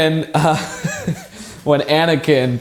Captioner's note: laughter